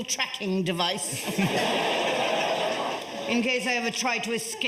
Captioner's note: audience laughs